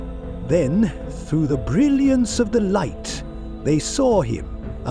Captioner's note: lower, mysterious